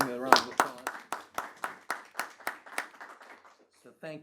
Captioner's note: attendees applauding